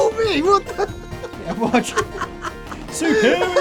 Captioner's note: chuckles